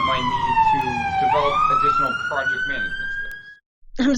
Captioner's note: sirens in the background